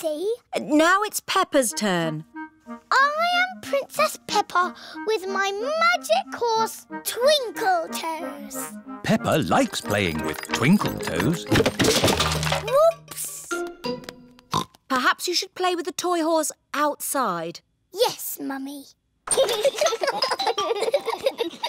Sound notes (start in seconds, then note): 14.1 oinks; 19.3 both giggling